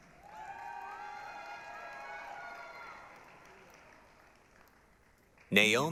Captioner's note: applause, cheering